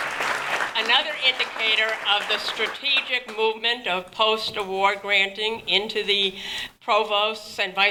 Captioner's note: applause